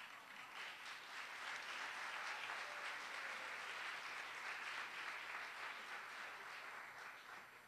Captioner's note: applause